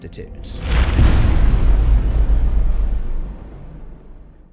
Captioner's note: impact